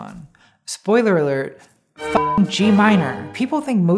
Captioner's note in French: bip